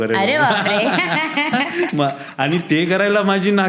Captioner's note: both laughing